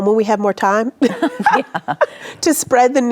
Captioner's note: both laughing